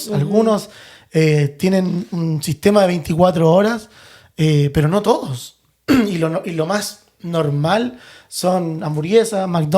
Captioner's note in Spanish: carraspeo